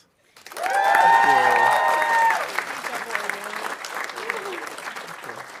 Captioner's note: audience cheering and applauding